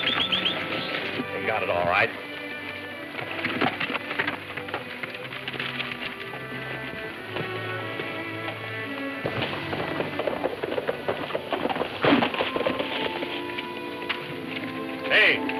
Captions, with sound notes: - They got it alright. (ominous music playing) (horses galloping)